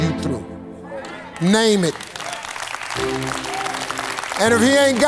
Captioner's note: audience applauds